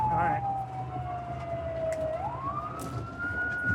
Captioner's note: siren